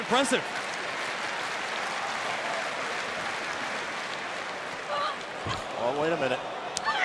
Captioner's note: crowd cheering